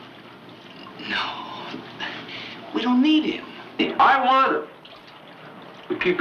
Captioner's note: none